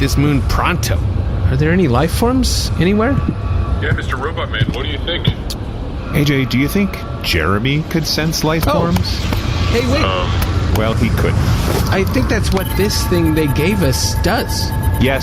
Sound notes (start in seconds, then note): 6.4 irritated